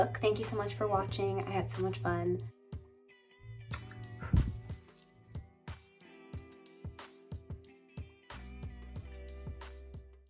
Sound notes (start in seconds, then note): 3.7 blows kiss; 5.5 lo-fi music